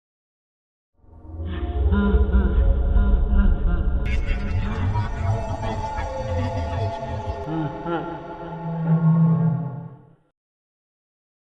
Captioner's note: Creepy ambiance, Freddy laughing, garbled speech